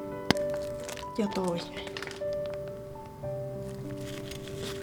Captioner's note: in Finnish